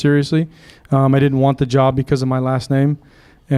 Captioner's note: none